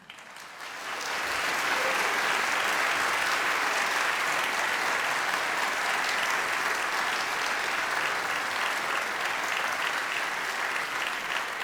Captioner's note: audience applause